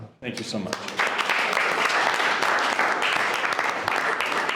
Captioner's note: board claps